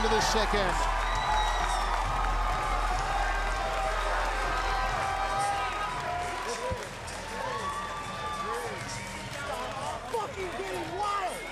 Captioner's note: cheering and applause